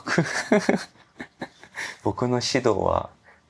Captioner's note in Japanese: 笑い